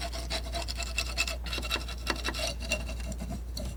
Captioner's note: scratching